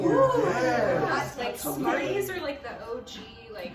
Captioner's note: general vocal agreement